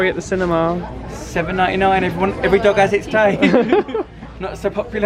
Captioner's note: laughs